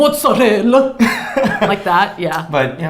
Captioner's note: laughs